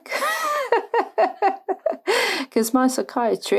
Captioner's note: laughs